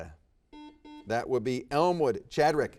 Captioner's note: buzzer dings